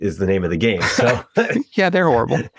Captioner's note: laughs